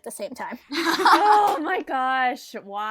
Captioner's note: hosts laugh